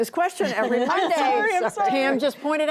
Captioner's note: laughter